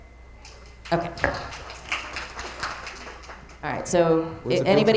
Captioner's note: attendees applauding